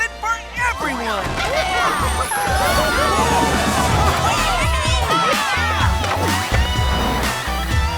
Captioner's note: cheering